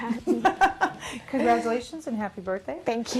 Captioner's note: laughing